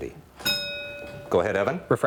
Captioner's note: bell rings